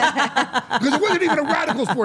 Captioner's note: Steph and Elyse laughing